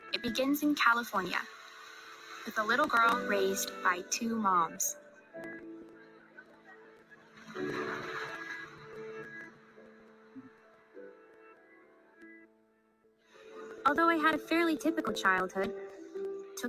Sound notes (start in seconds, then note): 5.4 reflective music; 7.4 ocean water splashing